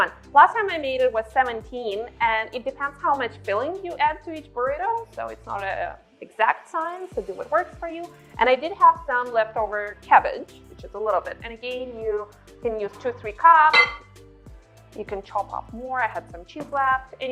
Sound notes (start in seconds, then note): 13.7 clinking dishes